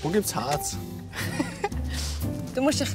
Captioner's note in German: lacht